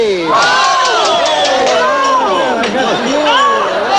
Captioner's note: all exclaiming